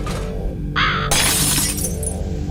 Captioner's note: bird caw; smashing glass